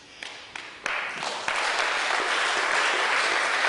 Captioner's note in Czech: potlesk